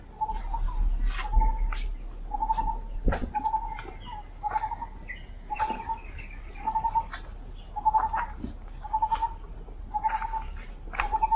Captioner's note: lineated barbet chirping